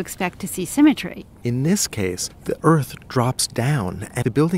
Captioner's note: voiceover